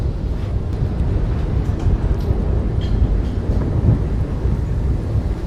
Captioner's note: wind blowing